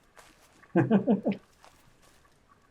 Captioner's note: chuckles